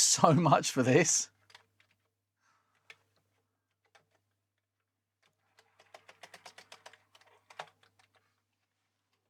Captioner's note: typing